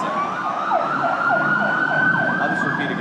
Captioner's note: sirens wailing